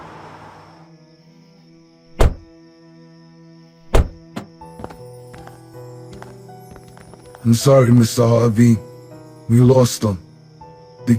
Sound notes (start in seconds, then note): 2.1 doors close